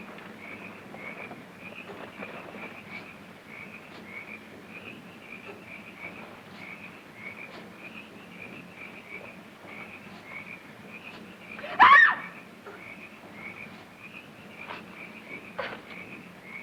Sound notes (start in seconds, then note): 11.6 Valerie screams